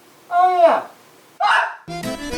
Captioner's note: screams